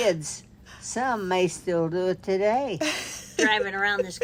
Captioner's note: laughs